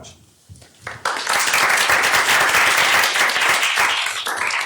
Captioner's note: applause